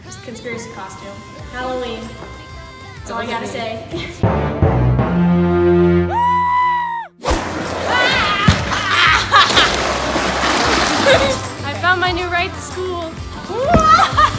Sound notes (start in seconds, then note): 4.2 ominous trumpets; 6.1 high pitched screaming; 8.0 screaming; 9.3 dragging sound